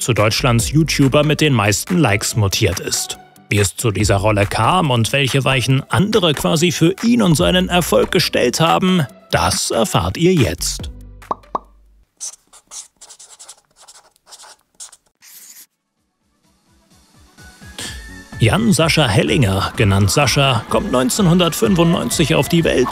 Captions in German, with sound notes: zu Deutschlands YouTuber mit den meisten Likes mutiert ist. Wie es zu dieser Rolle kam und welche Weichen andere quasi für ihn und seinen Erfolg gestellt haben, das erfahrt ihr jetzt. (Ploppgeräusche, Stiftekritzeln) (Lockere Musik) Jan-Sascha Hellinger, genannt Sascha, kommt 1995 auf die Welt